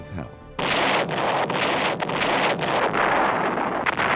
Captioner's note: explosions